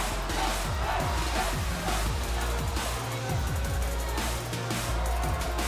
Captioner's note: fans chanting